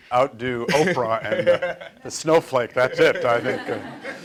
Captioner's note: laughing